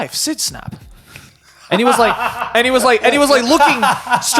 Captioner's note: laughing